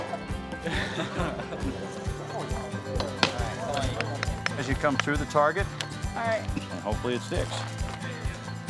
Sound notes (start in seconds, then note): 3.6 laughing; 3.6 upbeat country music